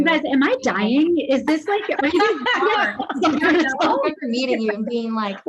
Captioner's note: laughs